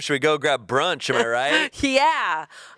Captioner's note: chuckling